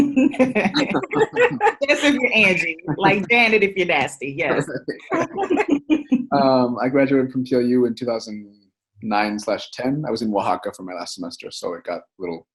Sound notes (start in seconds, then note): 4.5 all laugh